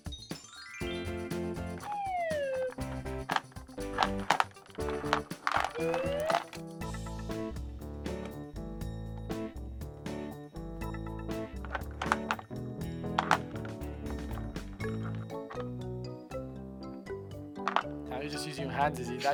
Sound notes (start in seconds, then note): 0.1 upbeat music; 3.9 marbles clattering